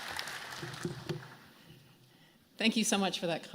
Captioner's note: applause